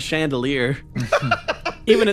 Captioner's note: laughs